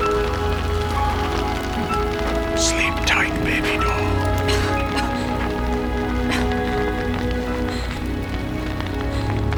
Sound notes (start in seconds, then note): 2.9 whispering; 4.4 coughs